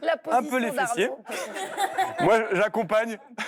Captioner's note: laughter